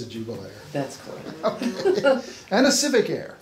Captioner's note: laughs